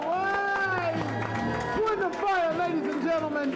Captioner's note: crow cheering